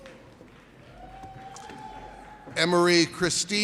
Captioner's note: audience cheers